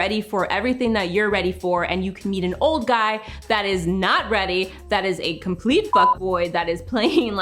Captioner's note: beep